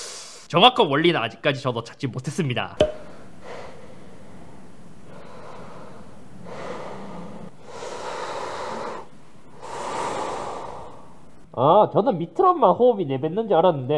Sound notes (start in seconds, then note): 9.5 it sucks tissue during inhaling